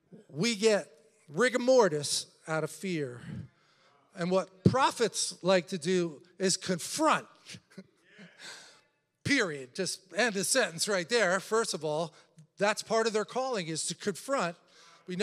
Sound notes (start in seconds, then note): 8.3 laughs